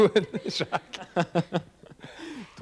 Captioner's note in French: rires